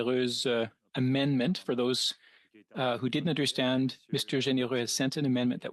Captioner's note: speaking French